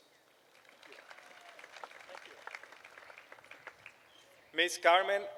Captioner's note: applause